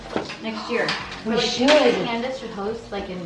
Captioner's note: gasps